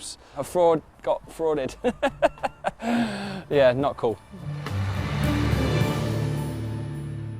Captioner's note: laughs